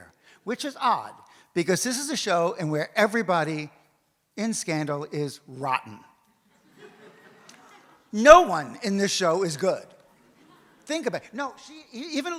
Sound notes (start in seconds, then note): 6.5 audience laughs